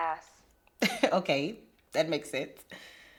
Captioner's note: laughs